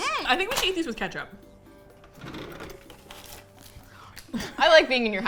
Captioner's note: drawer closes; drawer opens; both laugh